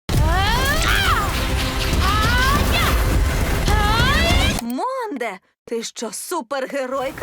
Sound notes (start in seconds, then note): 0.1 heroic music playing; 0.2 yells